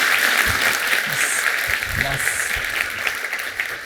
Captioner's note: applause